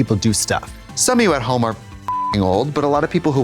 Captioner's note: beep